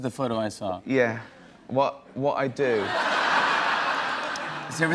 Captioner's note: laughter